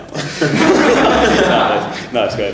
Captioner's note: everybody laughs in italian